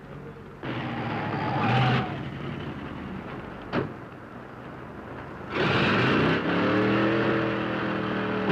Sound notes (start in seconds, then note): 0.6 tires squealing; 0.8 engine revving